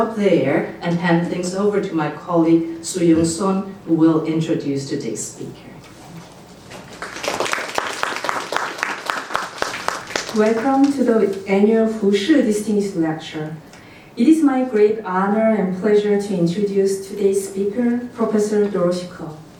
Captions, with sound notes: there and hand things over to my colleague Suyoung Son who will introduce today's speaker. (applause) Welcome to the Annual Hu Shih Distinguished Lecture. It is my great honor and pleasure to introduce today's speaker Professor Dorothy Ko.